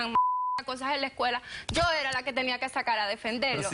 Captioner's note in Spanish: Bip